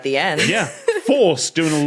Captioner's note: giggles